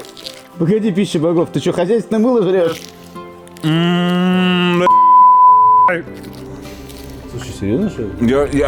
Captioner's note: sarcasm